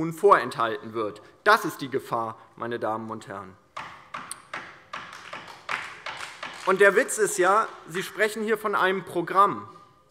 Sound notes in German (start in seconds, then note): 5.0 Beifall DIE LINKE